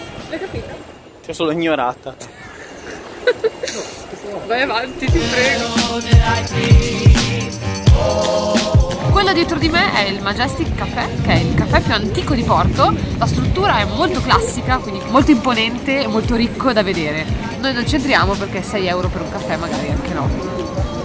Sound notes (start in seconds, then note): 5.6 laughs